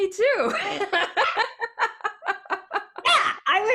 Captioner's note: both laughing